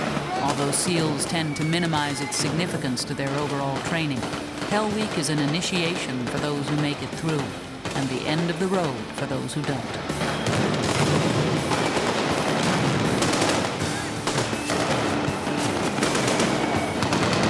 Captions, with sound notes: Although SEALs tend to minimize its significance to their overall training, Hell Week is an initiation for those who make it through and the end of the road for those who don't. (guns fire) (rockets soar)